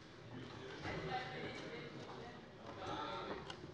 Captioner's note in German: none